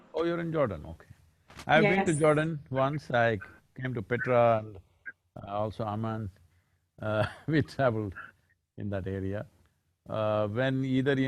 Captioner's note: laughs